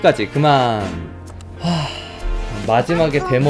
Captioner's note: sigh